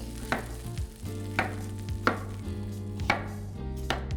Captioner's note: knife thuds